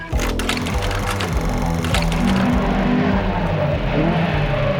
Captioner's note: film projector rattles